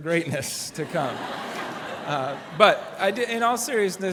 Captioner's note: laughter